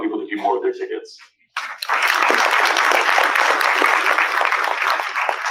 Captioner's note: applause